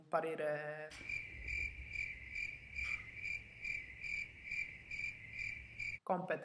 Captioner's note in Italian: Rumore di sottofondo: canto di grilli delle notti estive